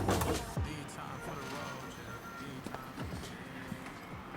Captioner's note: traffic humming in background